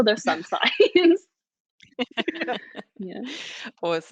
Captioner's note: all laughing